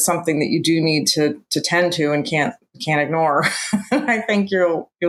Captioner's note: laughs